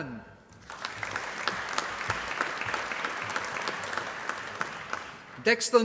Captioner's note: applause